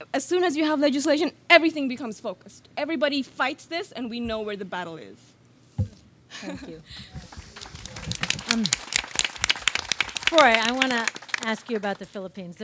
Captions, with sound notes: As soon as you have legislation, everything becomes focused. Everybody fights this and we know where the battle is. (laughs) - Thank you. (audience claps) Froi, I wanna ask you about the Philippines,